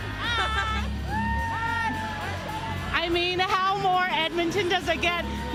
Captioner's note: cheering